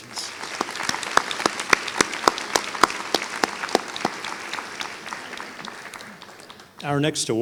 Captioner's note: applause